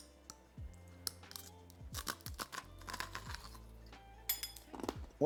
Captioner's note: steady music; apple crunching